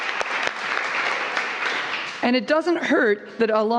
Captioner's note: applause